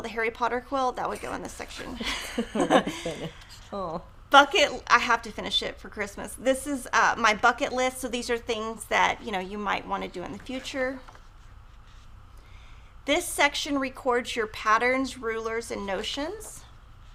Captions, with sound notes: the Harry Potter quilt, that would go in the section. (laughs) I have to finish it for Christmas. This is my bucket list, so these are things that you might want to do in the future. This section records your patterns, rulers, and notions.